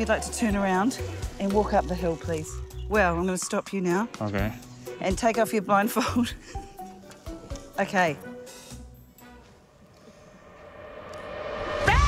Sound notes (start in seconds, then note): 7.2 chuckles; 10.2 suspenseful music